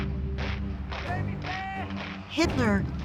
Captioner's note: man shouts German